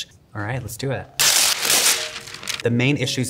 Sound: paper tearing

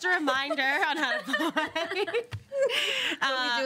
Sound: laughs

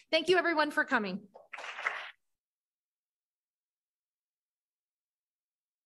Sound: applause

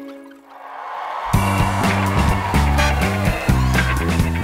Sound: crowd cheering

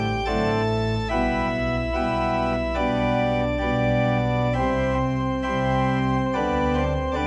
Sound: none

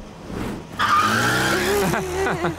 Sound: chuckles

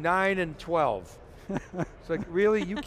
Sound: laughing

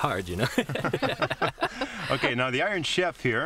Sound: laughter

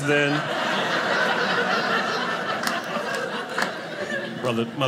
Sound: audience laughing

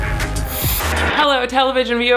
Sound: upbeat music; TV static

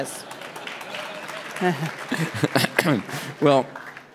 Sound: applause

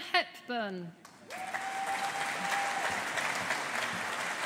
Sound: audience applauding

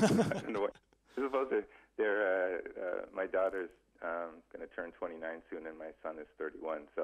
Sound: both laugh

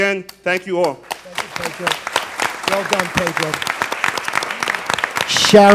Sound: applause

